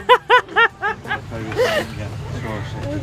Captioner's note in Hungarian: nevetés